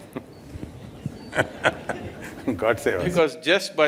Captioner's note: laughter